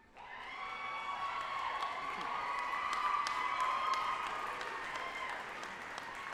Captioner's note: group applauding and cheering